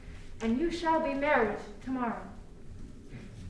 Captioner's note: none